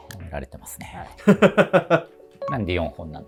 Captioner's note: laughing